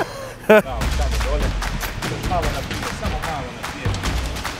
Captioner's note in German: Dynamische Klänge, Gesprächsfetzen